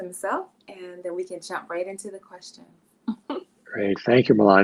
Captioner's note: chuckles